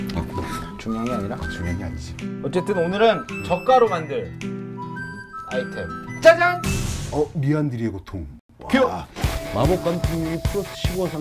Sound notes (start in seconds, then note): none